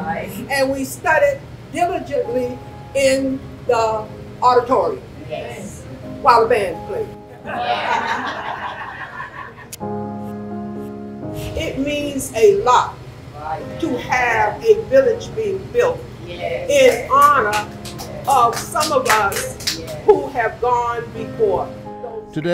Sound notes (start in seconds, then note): 7.4 attendees laughing; 17.0 attendees clapping